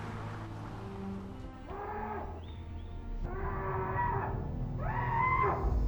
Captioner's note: Paul screaming